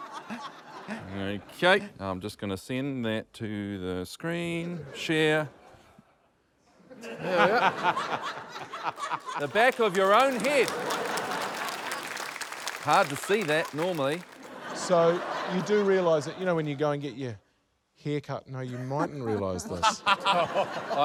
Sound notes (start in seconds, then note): 6.8 laughter; 11.5 applause; 13.4 laughter; 18.6 laughter